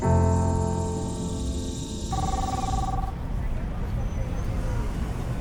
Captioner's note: insects trilling